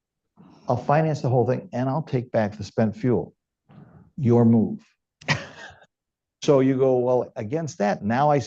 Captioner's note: laughter